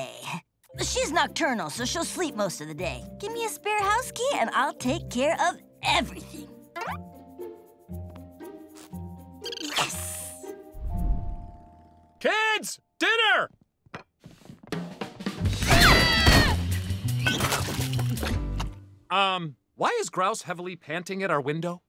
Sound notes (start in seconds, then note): 15.6 screaming